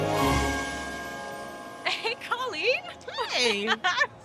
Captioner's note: laughs